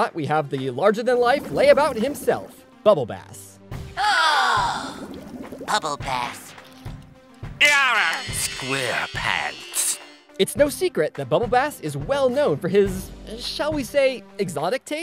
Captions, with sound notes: we have the larger than life lay about himself, Bubble Bass. [gasping] Bubble Bass. [groaning] SquarePants. It's no secret that Bubble Bass is well known for his shall we say exotic tastes?